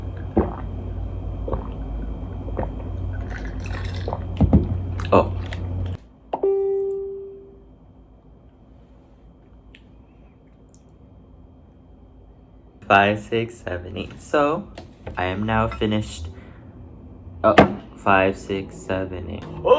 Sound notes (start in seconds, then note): 6.4 notification ping